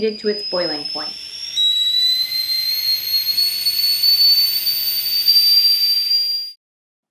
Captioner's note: tea kettle whistling